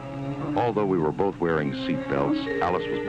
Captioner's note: man's voice